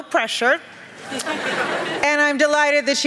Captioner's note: laughter